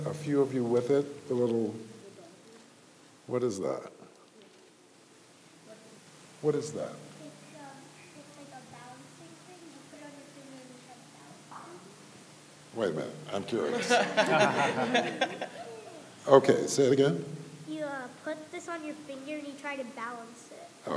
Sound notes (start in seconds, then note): 13.6 laughing